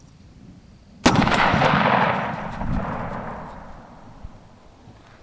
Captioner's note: shotgun fires